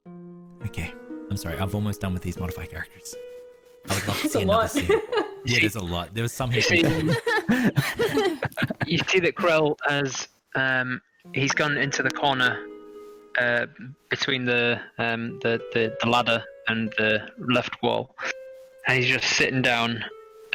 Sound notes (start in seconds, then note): 3.9 laughs; 6.5 laugh